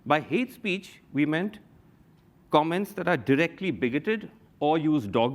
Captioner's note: none